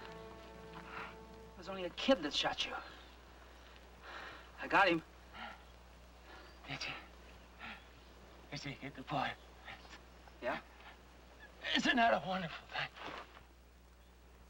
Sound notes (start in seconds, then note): 1.0 Wrigley gasping